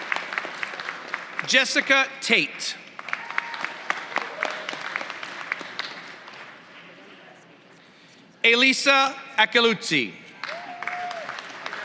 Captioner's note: applause